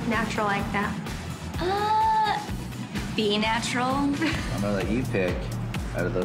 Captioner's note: laughs